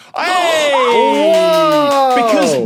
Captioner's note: applauds